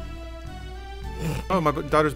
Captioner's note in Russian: Фырканье